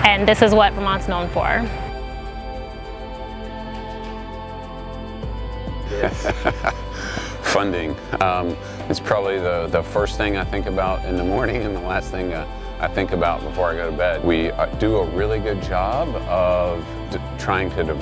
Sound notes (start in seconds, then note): 2.7 gentle music; 5.8 laughs